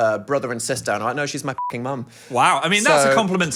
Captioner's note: beep